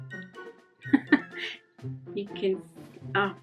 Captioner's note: chuckling